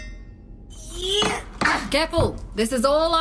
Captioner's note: A TING as Mo and Solaris clang their crowbars together